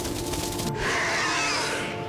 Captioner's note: snarling